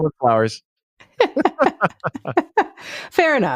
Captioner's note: laughs loudly